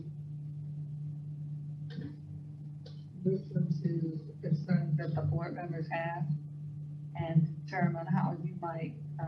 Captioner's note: speaker off microphone